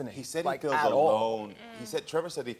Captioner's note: none